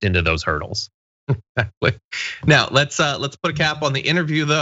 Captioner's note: laugh